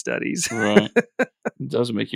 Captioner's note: laughs